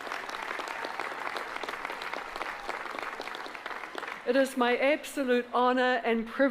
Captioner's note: applause